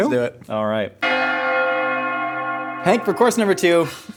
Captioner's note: bells Ringing